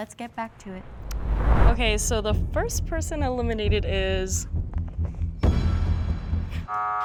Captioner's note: buzzer